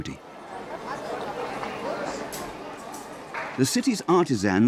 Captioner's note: crowd chatting